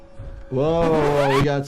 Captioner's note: character shuffling; suspenseful music; graphics fuzzing